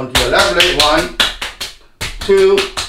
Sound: slapping

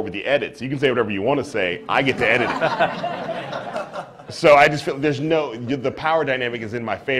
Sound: laughter

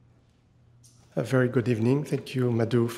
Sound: footsteps lightly clicking

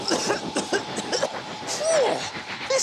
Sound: coughs

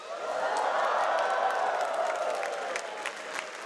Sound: cheers and applause

